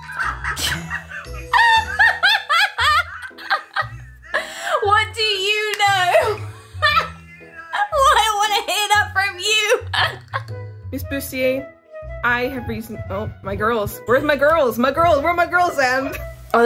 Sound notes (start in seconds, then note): 0.0 laughs; 9.8 laughs